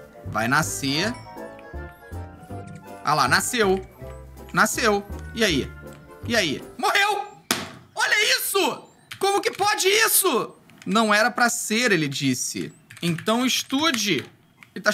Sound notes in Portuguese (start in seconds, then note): 7.5 som de batida na mesa